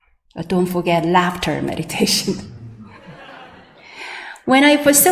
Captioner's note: sangha laughs